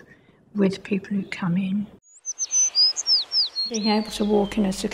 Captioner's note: bird singing